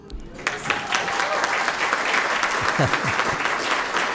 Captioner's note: cheers, applause